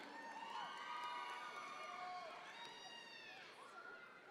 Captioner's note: audience members cheer